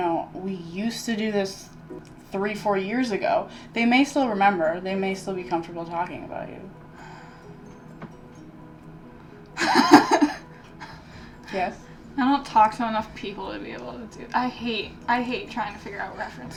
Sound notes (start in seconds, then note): 9.6 laughs uncomfortably